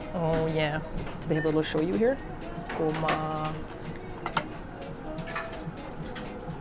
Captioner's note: speaking Japanese